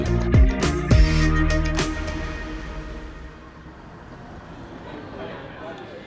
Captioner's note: upbeat music ends; engine rumbling